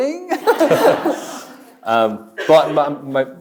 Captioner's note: chuckles; audience laughs; chuckles